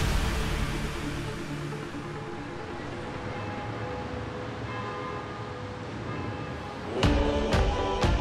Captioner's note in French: tintement de cloches